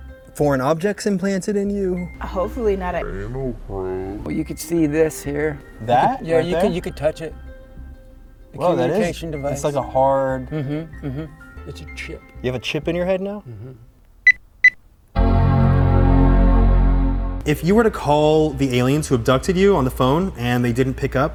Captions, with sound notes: foreign objects implanted in you hopefully not an anal probe. But you could see this here that yeah, you think you could touch it Well, that is, it's like a hard. Mm-hmm It's a chip. You have a chip in your head now? BEEP BEEP, *Windows start-up sound* If you were to call the aliens who abducted you on the phone and they didn't pick up